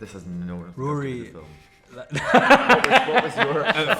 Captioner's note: laughs